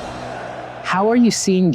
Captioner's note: spectators cheering